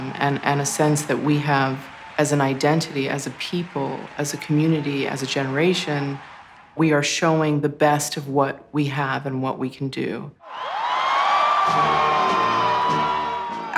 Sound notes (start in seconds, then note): 10.4 crowd cheering; 11.6 upbeat music